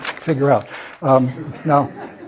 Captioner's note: laugh